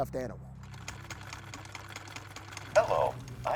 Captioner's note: sewing machine clicks